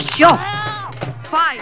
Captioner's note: Camera shutter clicks